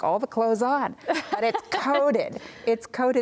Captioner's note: laughs